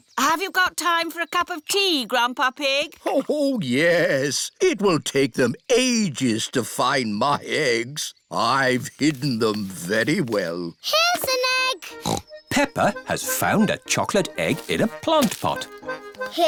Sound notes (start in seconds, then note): 11.8 snorts